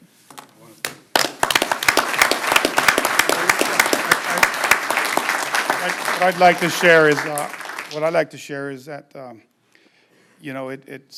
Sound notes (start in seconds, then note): 7.8 applause; 11.0 applause